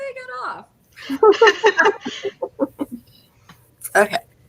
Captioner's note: all laugh